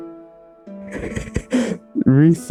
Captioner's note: giggles